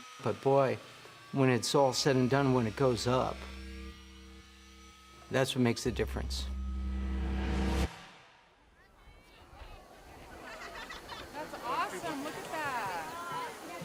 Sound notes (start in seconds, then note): 6.0 swish